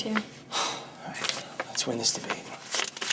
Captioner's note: exhale